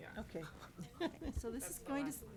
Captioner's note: chuckles